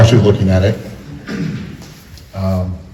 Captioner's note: clears throat